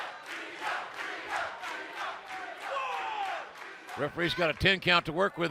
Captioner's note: fans chanting